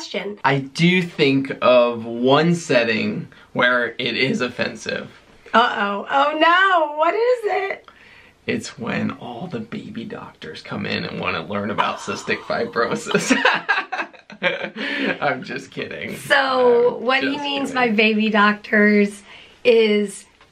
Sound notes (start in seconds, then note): 11.8 laughter